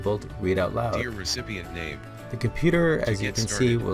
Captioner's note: computer synthesized voice